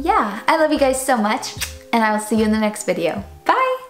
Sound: blows kiss

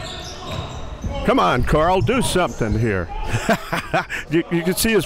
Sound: laughing

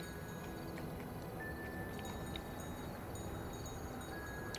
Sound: munching

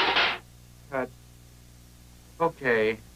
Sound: items thudding

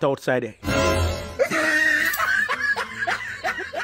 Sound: loud laughter

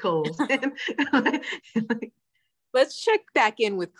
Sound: laughs

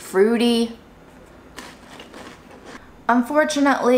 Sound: food crunching

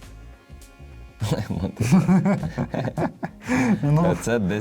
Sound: laughter

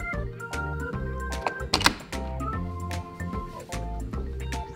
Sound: deadbolt locking

